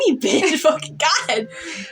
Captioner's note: laughing; chuckle